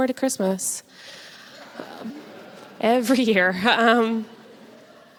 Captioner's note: audience laughs